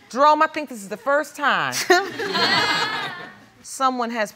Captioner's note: audience laughing